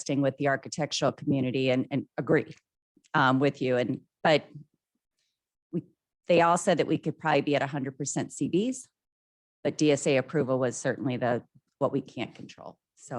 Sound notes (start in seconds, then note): none